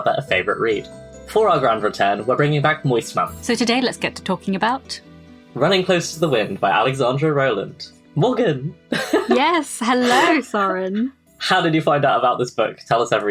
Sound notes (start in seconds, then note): 8.9 laughing; 9.2 theme music fades out